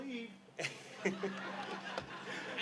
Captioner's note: laughter